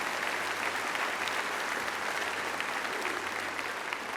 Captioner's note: applause